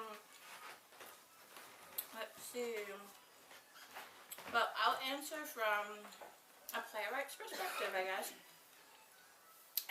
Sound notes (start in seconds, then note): 7.5 coughs